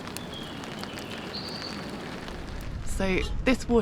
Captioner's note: birdsong